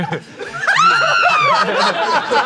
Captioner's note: screams